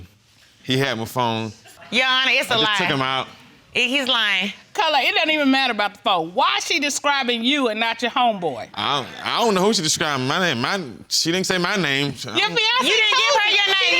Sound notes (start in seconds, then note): none